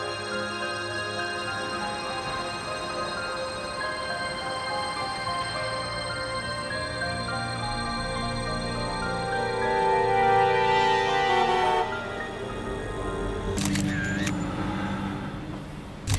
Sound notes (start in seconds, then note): 11.2 traffic bustling; 13.6 shutter clicking